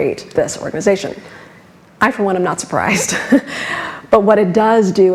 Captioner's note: laughs